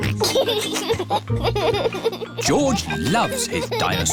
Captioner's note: oinks and laughs